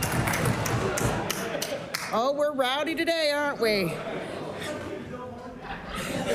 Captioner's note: applause